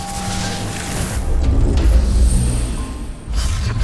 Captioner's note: magical buzzing